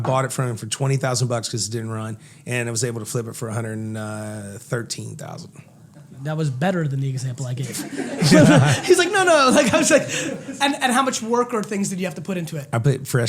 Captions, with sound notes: I bought it for 20,000 bucks cuz it didn't run and was able to flip it for 113,000. - That was better than the example I gave. (laughter) He's like no, no, like I was like. And how much work and things did you have to put into it?